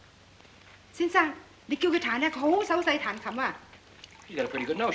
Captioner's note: speaking in Chinese